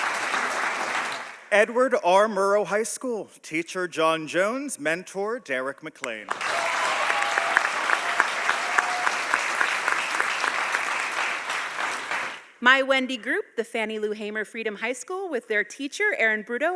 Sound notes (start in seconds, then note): 6.2 audience applauding